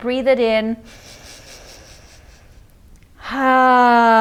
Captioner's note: inhales deeply